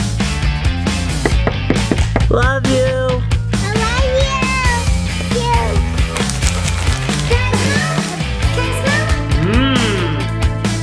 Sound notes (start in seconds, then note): 0.1 upbeat music; 1.2 door knock